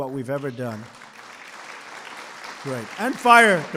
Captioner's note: applause